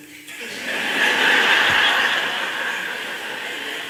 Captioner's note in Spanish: Risas